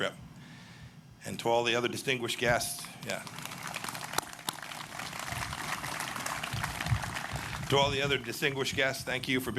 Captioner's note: applause